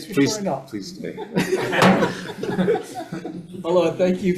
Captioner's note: committee laughs; gavel clanks